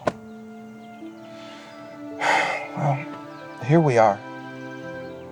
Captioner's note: sighs